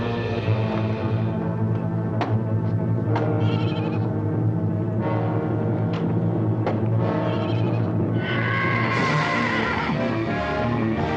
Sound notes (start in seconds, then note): 3.4 goat bleating